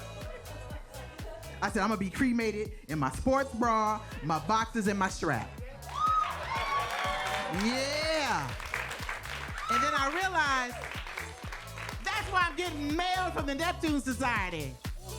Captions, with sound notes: I said, "I'm gonna be cremated in my sports bra, my boxers, and my strap." (audience cheering) Yeah. And then I realized, that's why I'm getting mail from the Neptune Society.